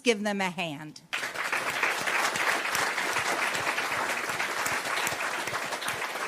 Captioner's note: applause